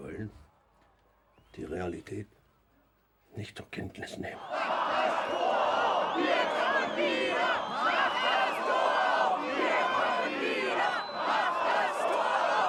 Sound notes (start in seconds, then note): 6.1 chant